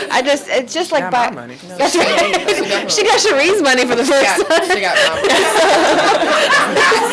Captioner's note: laughs